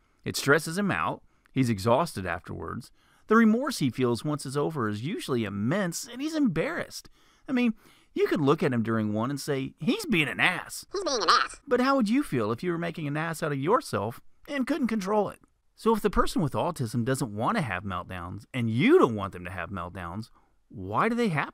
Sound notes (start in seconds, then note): 10.2 funny voice; 11.3 man's voice